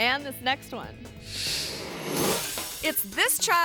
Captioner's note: screen whooshes